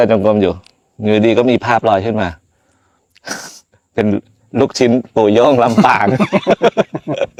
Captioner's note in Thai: เสียงสูดหายใจ; เสียงหัวเราะ